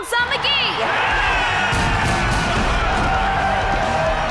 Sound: cheering

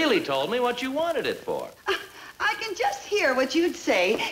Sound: scoffing

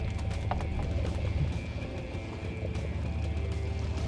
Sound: water splashes

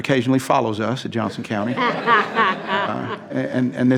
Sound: laughing

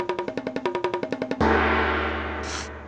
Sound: gong!

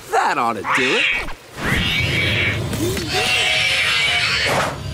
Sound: screeching

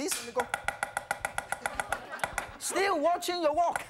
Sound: chopping

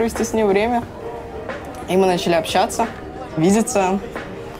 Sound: none

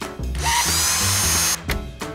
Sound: electric screwdriver

